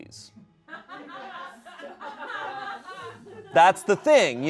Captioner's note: people laugh